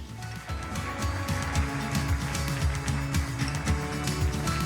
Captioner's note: audience applauds; upbeat music